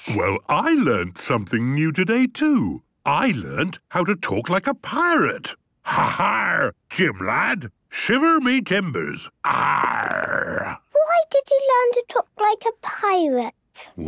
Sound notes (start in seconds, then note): 5.9 menacing voice; 9.4 he growls